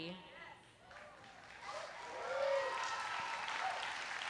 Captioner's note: applause